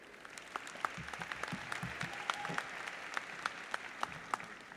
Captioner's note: audience applauds